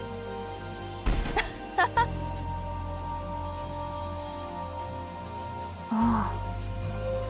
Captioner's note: sigh